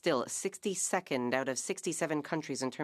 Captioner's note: speaking French